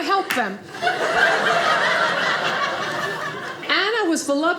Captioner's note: audience laughing